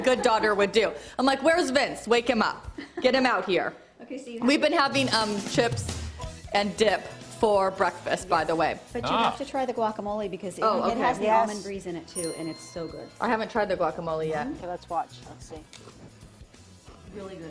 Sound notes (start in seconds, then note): 2.7 laughter